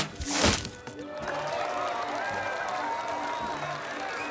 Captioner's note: cheering